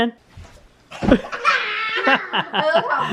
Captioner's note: laughing